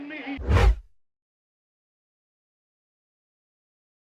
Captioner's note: screen swooshes